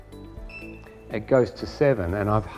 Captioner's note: camera beeps